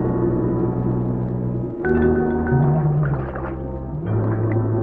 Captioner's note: water swishing